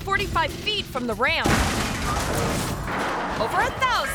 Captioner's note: car crashes; ramp clangs